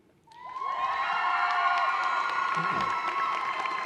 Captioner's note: cheering